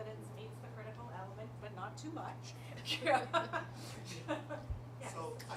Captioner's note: chuckling